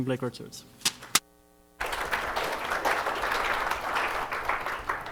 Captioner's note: applause